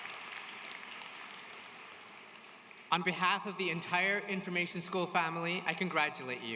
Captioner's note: applause